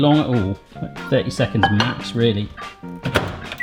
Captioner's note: microwave door slamming